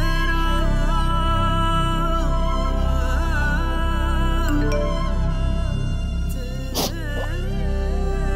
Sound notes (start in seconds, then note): 4.5 Message tone